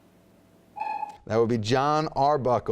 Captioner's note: dinging